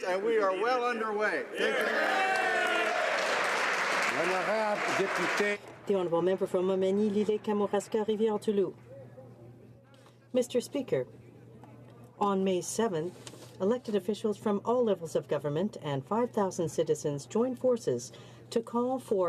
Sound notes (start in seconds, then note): 7.6 some Applause